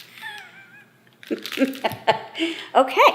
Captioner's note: mom laughing